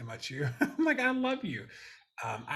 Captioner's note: laughing